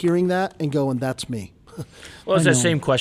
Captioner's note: chuckles